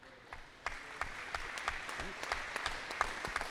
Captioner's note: applause